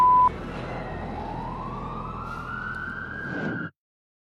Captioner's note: siren wailing